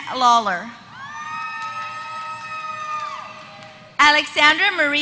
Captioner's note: applause